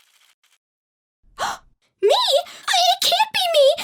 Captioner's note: gasp